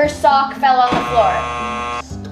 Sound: buzzer buzzing

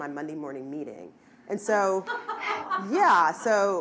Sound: person laughing

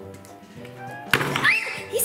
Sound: loud bang; screams

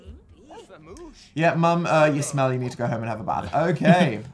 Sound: laughs

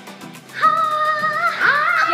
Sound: yells

